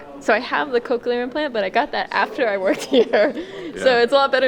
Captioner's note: laughter